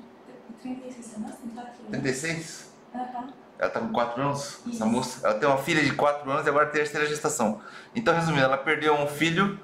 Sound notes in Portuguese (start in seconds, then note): 2.6 murmúrio afirmação